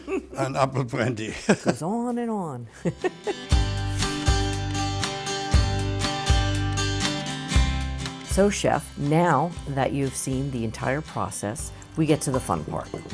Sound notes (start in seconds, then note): 0.0 laughs